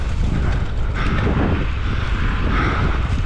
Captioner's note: panting